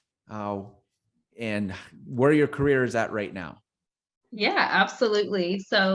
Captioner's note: none